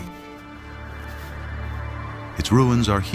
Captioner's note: wind whistling softly